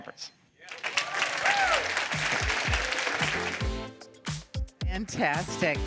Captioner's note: applause